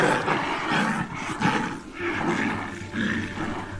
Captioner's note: growls